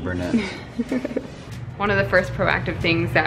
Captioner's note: laughing